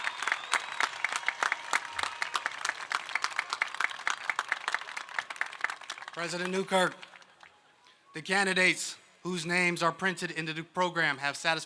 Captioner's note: applause